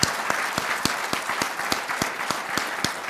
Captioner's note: applause